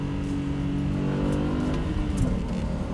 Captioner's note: revving up further